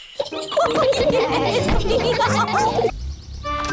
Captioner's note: all giggle